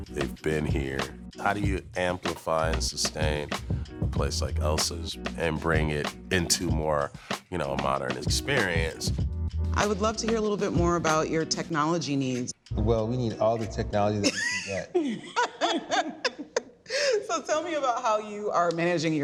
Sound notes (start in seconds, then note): 14.2 laughing